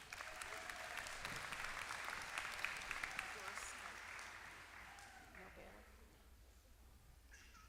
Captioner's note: applause